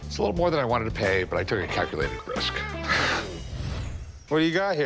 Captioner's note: chuckles